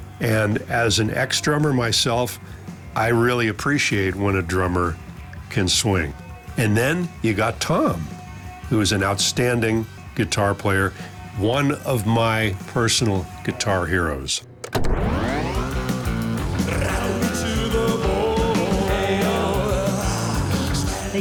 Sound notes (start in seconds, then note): 14.4 tape player starts